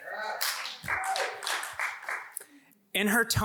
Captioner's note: audience applauds